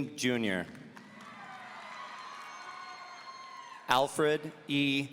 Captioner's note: audience cheering